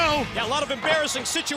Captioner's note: bell ringing